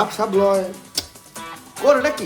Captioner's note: pop